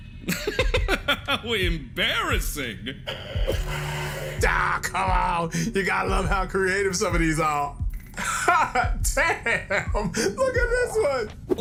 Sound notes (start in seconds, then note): 3.0 angry kitty noises